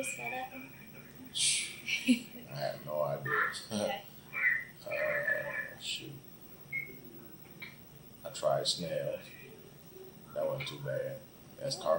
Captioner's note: laughs